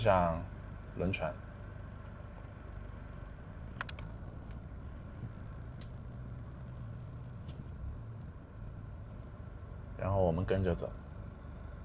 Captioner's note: 英语